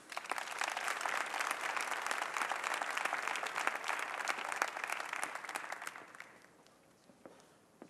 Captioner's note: applause